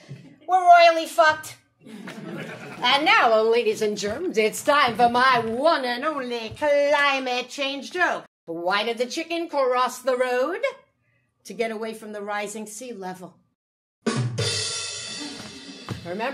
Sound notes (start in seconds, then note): 1.8 audience laughing; 14.0 drumming music